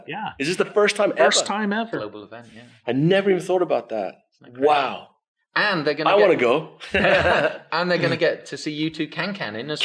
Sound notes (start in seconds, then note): 6.9 everyone laughs